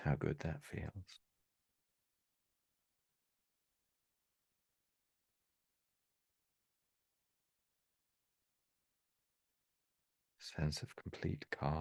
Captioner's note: silence